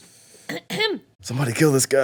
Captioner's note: clears throat